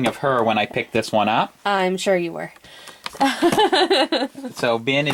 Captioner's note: laughs